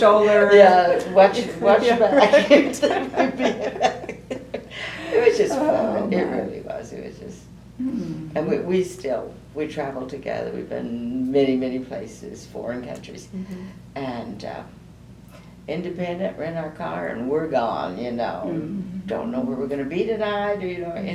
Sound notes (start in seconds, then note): 5.9 laughter